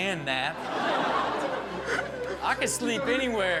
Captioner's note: audience laughs